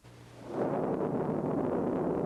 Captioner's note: thunder